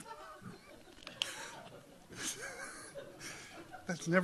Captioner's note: laughing